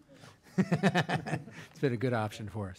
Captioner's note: laughing